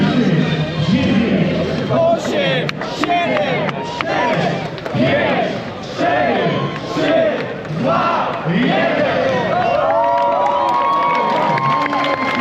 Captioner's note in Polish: Aplauz